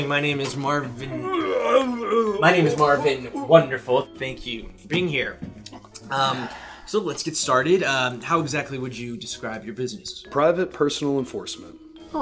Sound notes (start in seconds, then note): 1.0 Herman puking